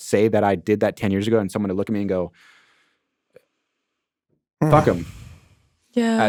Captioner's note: sighing